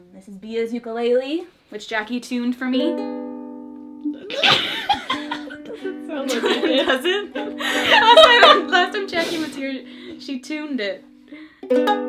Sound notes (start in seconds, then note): 4.2 laughs